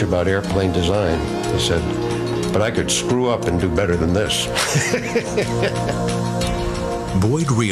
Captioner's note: laughs